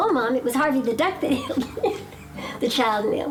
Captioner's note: laughing